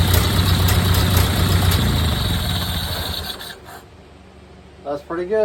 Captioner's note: click ignition switch and engine dies; engine idling smooth